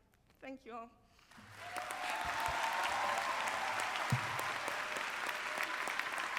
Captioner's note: applause; cheering